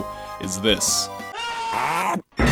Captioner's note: Koopa screaming